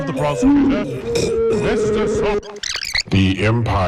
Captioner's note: chocking